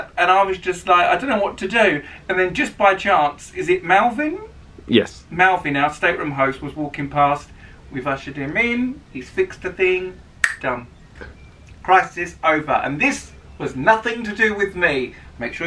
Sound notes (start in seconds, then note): none